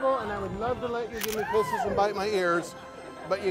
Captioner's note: shutter clicks